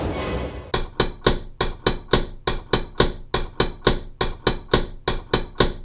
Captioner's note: creepy sound effect; knocking sound effect